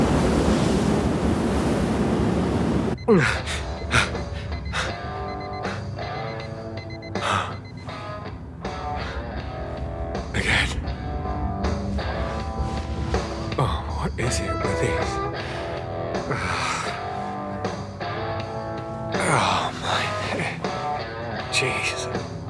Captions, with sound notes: (gasping) Again? Oh, what is it with these? Ugh, oh, my head...jesus.